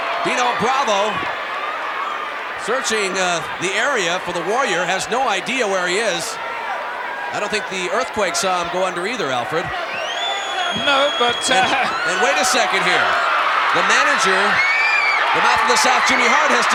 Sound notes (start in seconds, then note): 10.2 audience cheering; 11.2 chuckling; 13.0 audience cheering